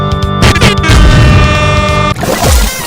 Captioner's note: airhorns blasting